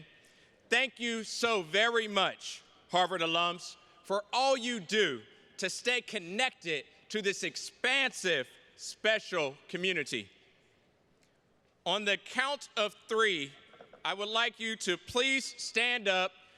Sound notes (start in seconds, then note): none